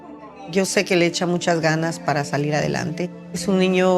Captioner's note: in Spanish